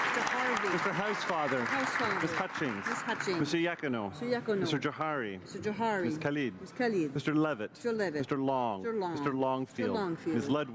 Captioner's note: applause